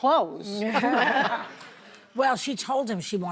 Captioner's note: audience laughs